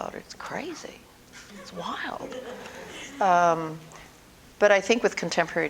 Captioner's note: audience: Laughter